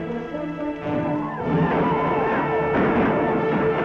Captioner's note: Indian calls and gun shots